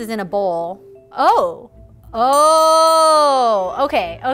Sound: idea bell ringing

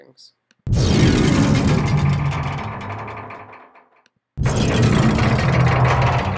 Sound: thudding and metallic rattling

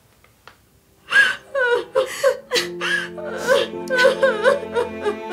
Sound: Hyun-ju, Sook-hee crying

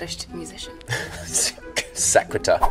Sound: laughs

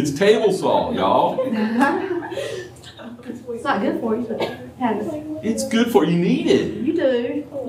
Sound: laughter

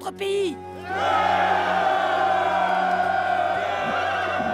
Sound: soldiers cheer

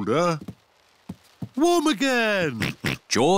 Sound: oinks

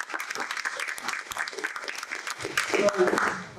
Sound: clapping

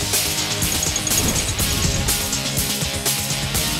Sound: ticking

